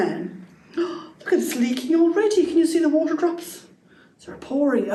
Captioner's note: gasp